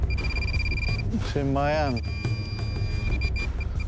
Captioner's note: continuous beep